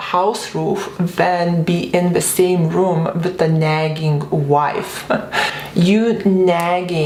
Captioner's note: laughs